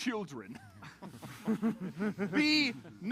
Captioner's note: laughter